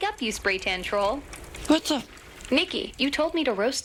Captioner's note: garbage disposal grinding credit cards